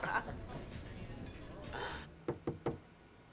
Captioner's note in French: On frappe à la porte